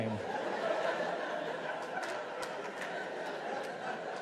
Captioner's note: audience laughs